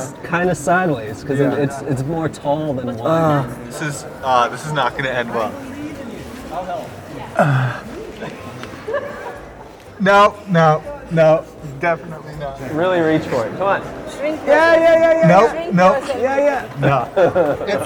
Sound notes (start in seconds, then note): 7.4 grunts